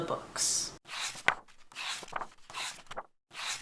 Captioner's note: pages turning